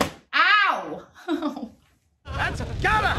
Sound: laughing

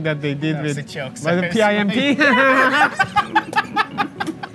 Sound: both laughing

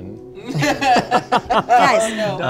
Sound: laughter

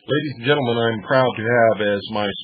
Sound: speaking over music

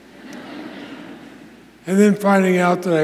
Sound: audience laughs

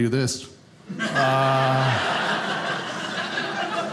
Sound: audience laughing

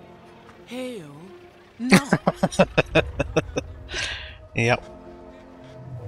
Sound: laughing

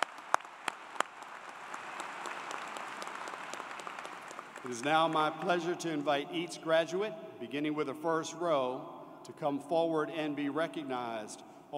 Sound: cheers and Applause

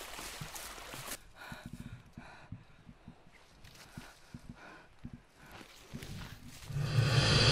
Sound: breathing heavy; haunting music

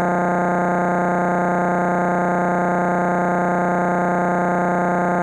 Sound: electronic buzzing continues

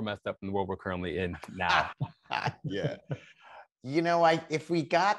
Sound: Jason laughs

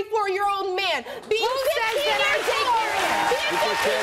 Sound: audience cheers

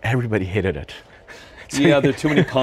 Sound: laughs

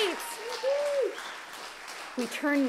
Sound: cheering

